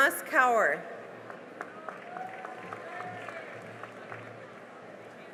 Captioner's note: cheering and applause